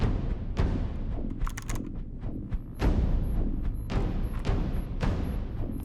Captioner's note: keyboard clicking